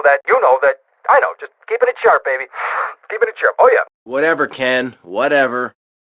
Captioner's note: sniff